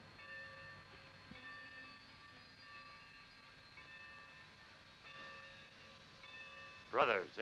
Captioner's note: station bell rings